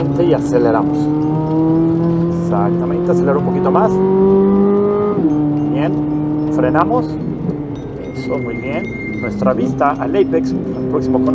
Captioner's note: engine revving